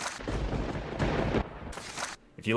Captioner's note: thunder rumbling